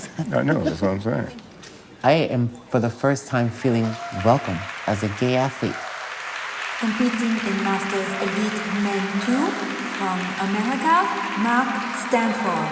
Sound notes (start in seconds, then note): 4.1 audience applauding